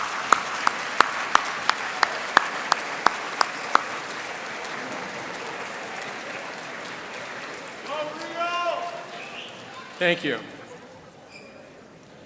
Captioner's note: applause